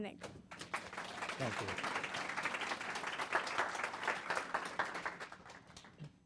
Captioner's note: applause